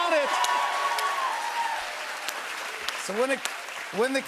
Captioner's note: cheers and applause